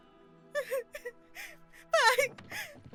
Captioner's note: sarah crying